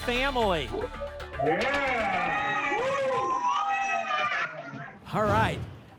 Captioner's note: cheering